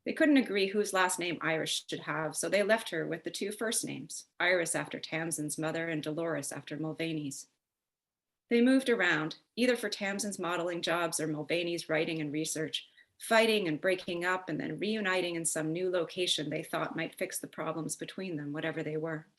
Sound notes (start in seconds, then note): none